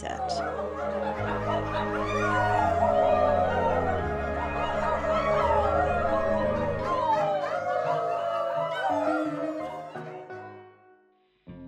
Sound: sound of group howling

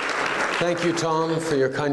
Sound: applause

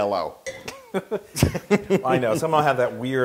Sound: laugh

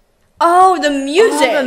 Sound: pah pah pahhh pahhh pahhh

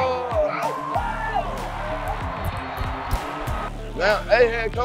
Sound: players cheering

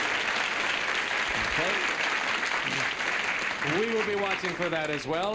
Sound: applause

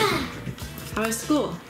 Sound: sighs

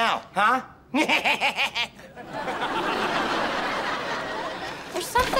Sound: laughs, bleats

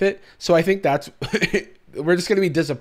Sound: chuckles

